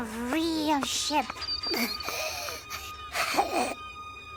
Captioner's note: Ferny breathes heavily